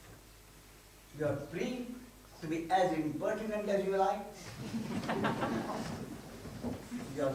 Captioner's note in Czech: smích